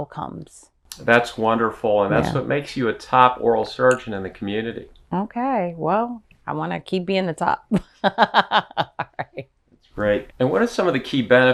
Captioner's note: laughs